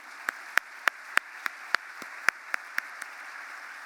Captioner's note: applause